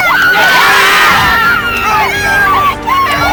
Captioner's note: cheering